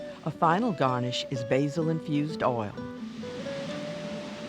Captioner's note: voiceover